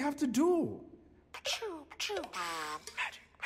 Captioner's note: buzz